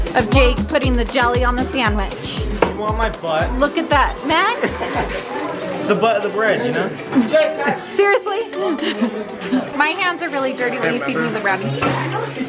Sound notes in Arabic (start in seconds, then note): 7.1 ضحكات خافتة